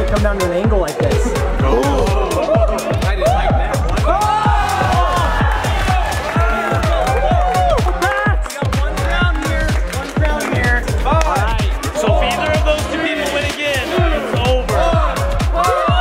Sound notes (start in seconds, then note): 3.1 group shouts